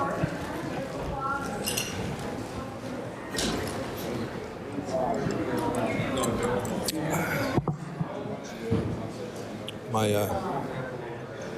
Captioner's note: chatter